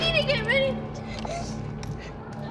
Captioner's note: sobbing